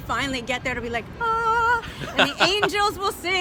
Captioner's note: laughs